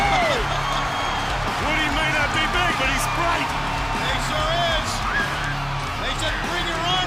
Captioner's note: crowd cheering